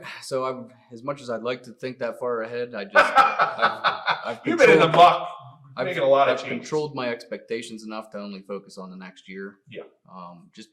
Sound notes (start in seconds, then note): 2.9 laughs